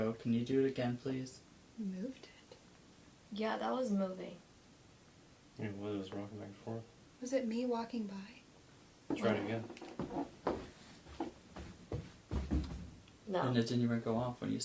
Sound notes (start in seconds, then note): 9.0 floor creaking